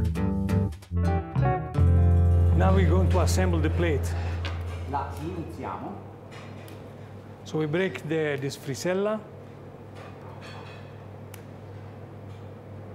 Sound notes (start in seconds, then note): 5.0 speaking Italian